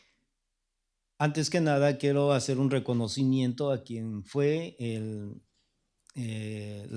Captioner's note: speaking spanish